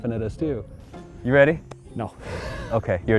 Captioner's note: laughs